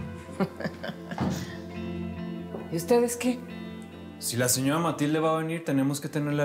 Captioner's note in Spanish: ella ríe